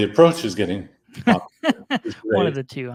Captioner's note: laughs